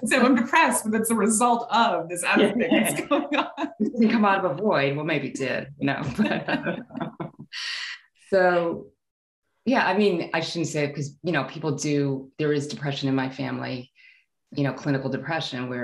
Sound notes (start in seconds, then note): 6.1 laughing